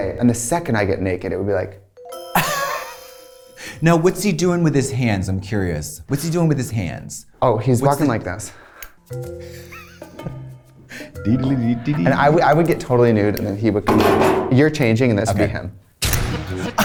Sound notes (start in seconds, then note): 2.0 mystery music; 2.4 Katya laughs; 9.0 mystery music; 9.5 Katya laughs; 16.1 lively music; 16.4 Katya laughs